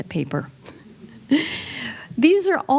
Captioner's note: chuckles